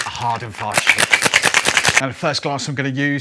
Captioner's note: cocktail shaker rattling